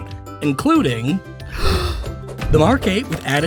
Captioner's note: inhale